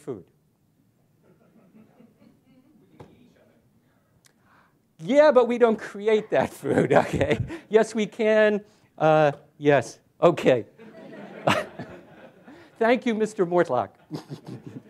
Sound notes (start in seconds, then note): 10.8 laughter